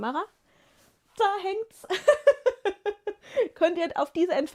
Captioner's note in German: gelächter